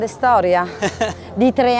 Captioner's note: laughs